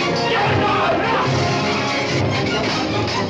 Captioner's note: ruffians shouting